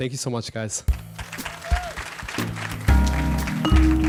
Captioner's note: applause